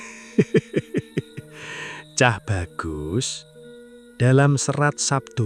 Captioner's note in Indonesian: tertawa